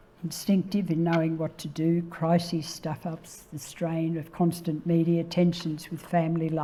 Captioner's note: none